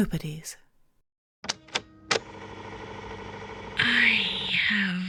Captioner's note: tape recorder starting